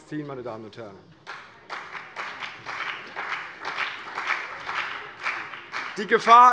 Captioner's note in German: Beifall CDU und BÜNDNIS 90/DIE GRÜNEN